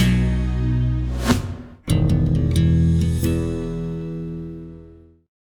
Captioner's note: graphics whooshing